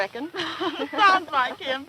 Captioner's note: laughs